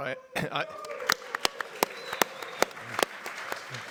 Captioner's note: everyone cheers